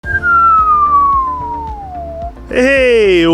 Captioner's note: descending whistle